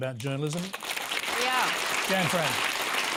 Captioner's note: applause